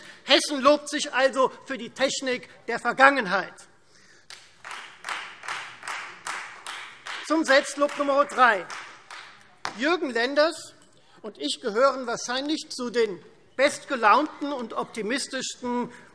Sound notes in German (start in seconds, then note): 4.3 Beifall Freie Demokraten